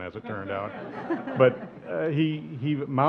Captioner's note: audience laughs